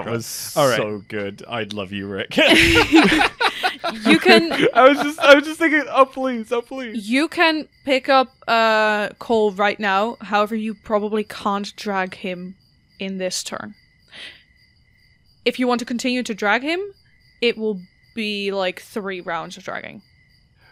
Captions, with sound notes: That was so good. I love you, Rik. [Laughter] I was just thinking, "Oh, please. Oh, please!" You can pick up Kol right now. However, you probably can't drag him in this turn. If you want to continue to drag him. It will be, like, three rounds of dragging.